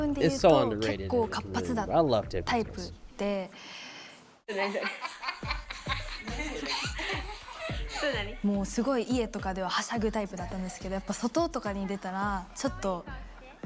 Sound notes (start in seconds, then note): 3.0 speaking in foreign language